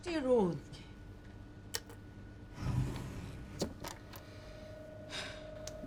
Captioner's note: man speaking unknown foreign language; woman speaking unknown foreign language